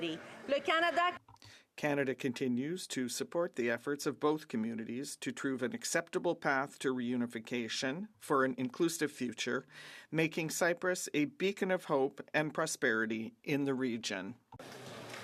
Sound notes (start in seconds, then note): 5.0 speaking French